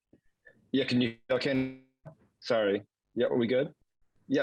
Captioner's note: voice cracking